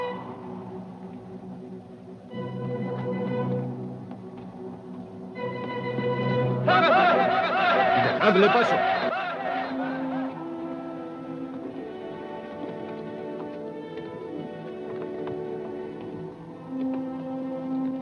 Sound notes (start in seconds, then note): 6.6 Grito apache; 9.0 Delgadito hablando idioma extranjero; 11.0 música tensa